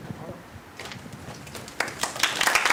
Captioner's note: applause